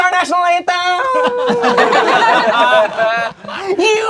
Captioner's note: crowd laughing